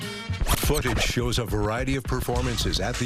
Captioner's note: record scratching